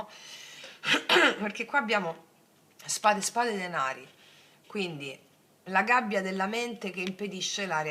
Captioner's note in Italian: schiarire la voce